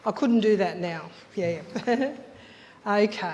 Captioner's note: chuckles